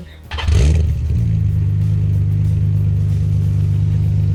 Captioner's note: engine revving